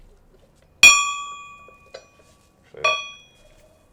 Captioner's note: bell gently chimes